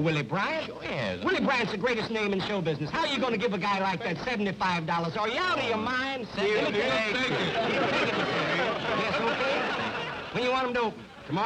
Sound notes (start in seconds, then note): 6.4 indistinct chatter